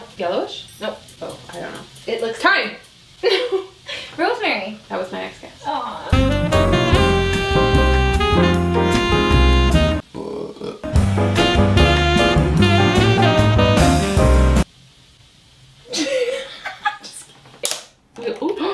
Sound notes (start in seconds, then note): 6.0 lounge music; 10.0 burps; 16.0 laughs